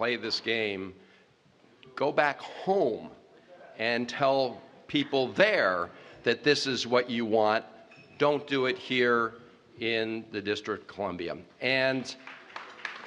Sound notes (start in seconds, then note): 12.0 applause